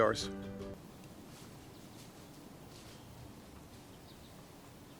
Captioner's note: birds chirping